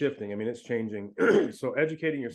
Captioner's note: clears throat